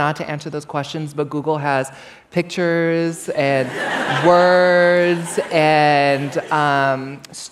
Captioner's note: laughter